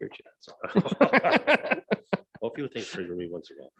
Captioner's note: laughs